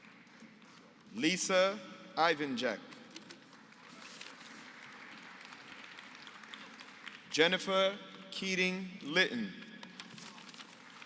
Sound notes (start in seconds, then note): 3.4 applause; 10.8 applause